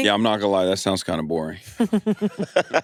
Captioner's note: laughs